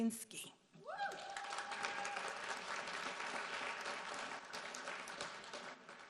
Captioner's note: audience cheering and applauding